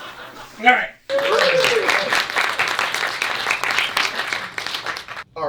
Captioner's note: applause